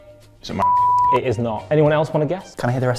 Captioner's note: beeping; buzzer buzzes